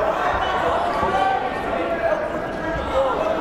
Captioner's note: yelling